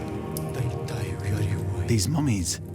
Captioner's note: whispering in foreign language